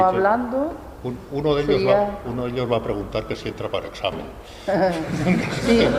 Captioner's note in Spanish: risas